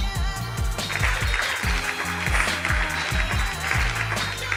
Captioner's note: applause